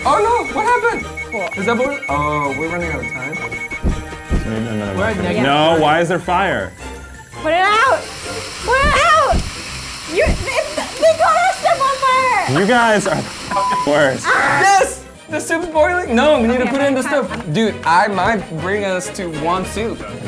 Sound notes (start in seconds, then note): 13.2 beeps; 14.3 screaming